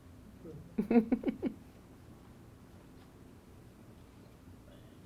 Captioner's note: chuckles